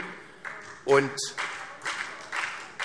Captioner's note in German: Beifall SPD